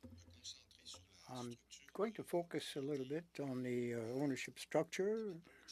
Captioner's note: speaking French